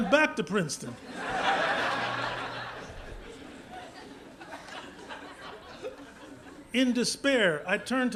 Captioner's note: laughter